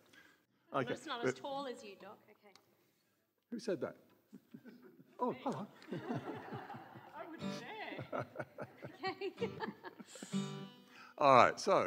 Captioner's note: laughter as they set up